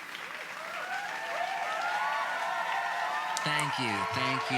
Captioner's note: audience cheering and clapping